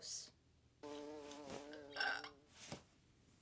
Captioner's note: bee buzzing